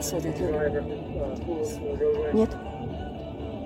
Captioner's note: speaking in foreign language